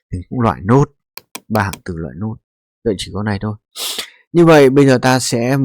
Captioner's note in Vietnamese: khịt mũi